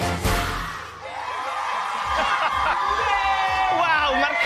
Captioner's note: cheering